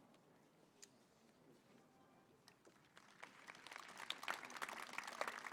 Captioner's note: applause